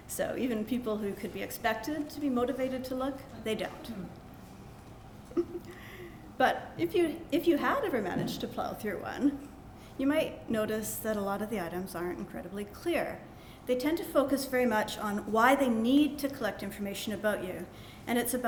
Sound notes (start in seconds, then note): 5.3 laughter